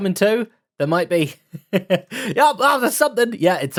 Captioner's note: laughs